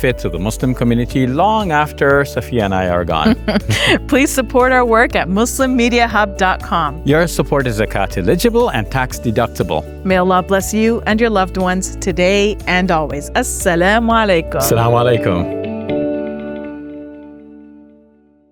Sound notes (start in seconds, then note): 3.2 chuckles; 15.8 gentle music